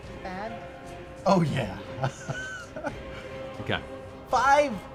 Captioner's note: laughs